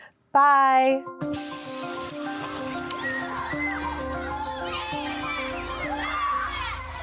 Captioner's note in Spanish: niños riendo